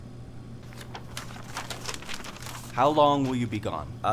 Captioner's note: notebook pages turning